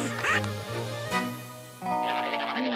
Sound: coughing

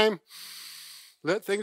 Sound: breathing in through nose

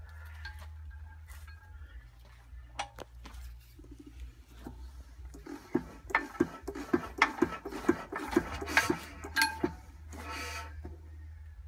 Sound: clunka clunka clunka clunka ting whoosh woosh

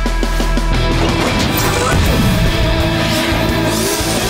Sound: turbo turning on

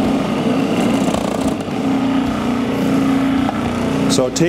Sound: blender whirring

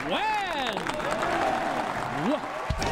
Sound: applause

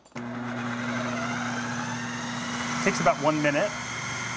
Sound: whirring

